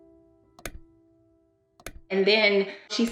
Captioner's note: clock ticking